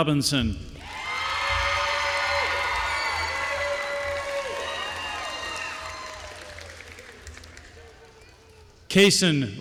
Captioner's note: applause